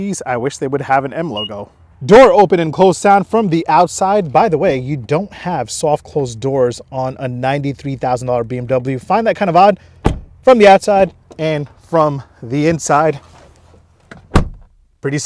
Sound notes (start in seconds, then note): 1.2 car beeps; 10.0 car door slams; 14.0 car door slams